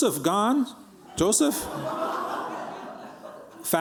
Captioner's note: laughter